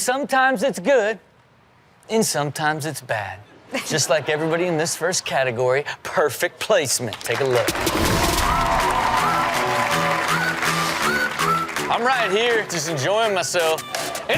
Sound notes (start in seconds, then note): 7.4 audience cheers; 7.8 upbeat music